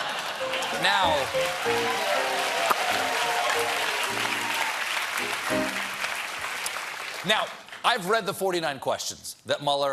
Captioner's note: cheers and applause